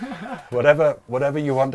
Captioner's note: laughs